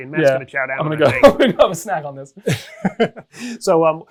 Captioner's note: laughs